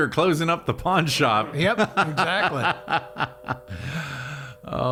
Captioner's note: laughing